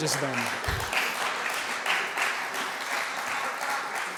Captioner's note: applause